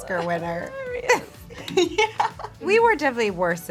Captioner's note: laughs